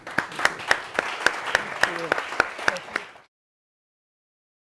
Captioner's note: audience applauding